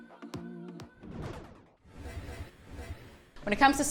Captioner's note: scene whooshing